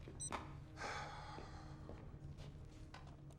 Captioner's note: sigh